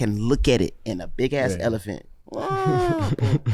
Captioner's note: groans